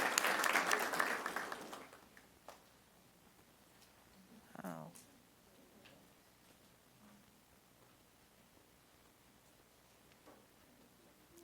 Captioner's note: applause